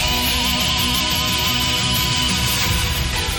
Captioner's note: alarm